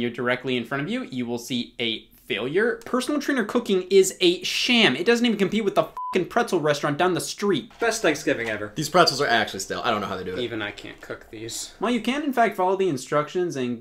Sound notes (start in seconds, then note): 5.9 beep